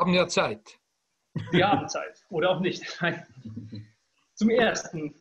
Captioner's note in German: lacht